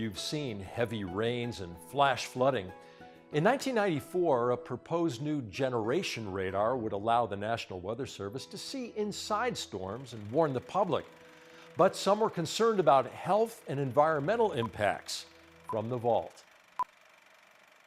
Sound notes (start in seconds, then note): 15.6 beeping